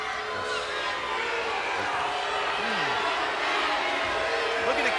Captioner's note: crowd chattering